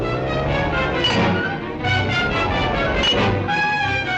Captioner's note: metal whirring and clanking; dramatic music